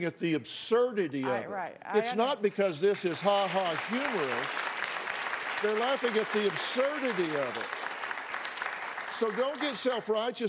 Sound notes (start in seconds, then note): 2.8 applause